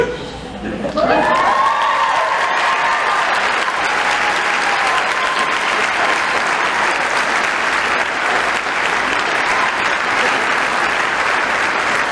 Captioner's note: applause